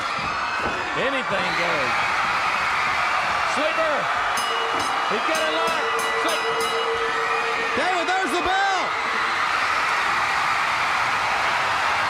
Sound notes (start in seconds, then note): 5.1 crowd cheering; 7.0 bell ringing